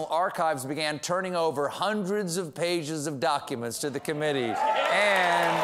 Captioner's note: applause